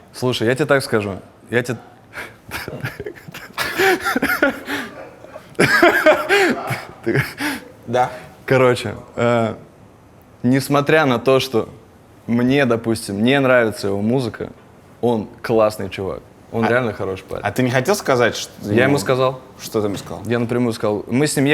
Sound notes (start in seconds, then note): 2.2 and people off camera laugh; 2.3 chortling off camera